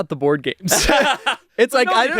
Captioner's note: everyone laughs